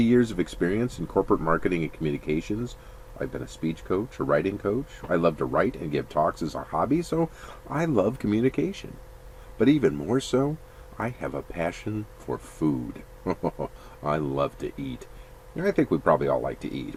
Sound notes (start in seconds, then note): 13.2 laughs